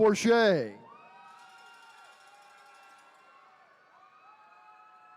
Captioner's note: attendees cheering